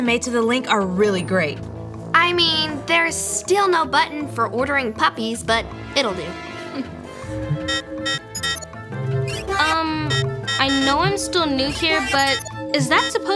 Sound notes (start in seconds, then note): 7.6 alarm beeping